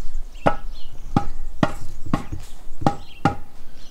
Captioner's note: birds chirping